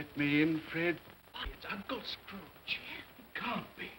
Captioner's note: guests murmur